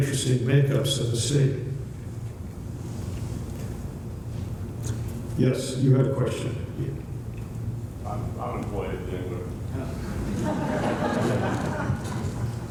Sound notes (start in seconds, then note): 8.2 voiceover; 10.0 laughter